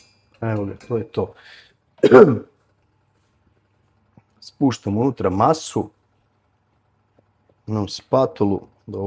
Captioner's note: coughs